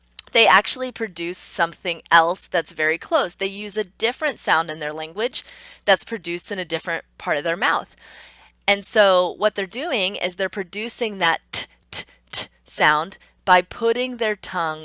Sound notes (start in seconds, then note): none